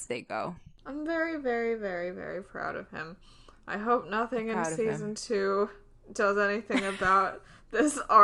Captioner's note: laughs